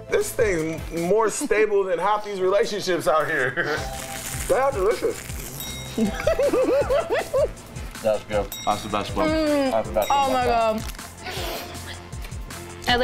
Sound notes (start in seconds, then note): 5.5 bell dings; 5.9 laughs; 8.4 bell dings